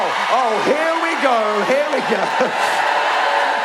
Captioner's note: mix of boos and cheers